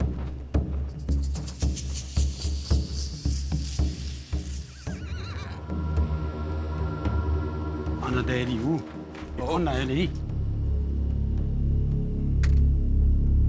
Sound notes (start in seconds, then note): 4.4 horses neighing; 9.0 speaking native language